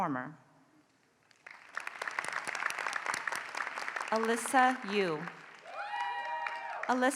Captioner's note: applause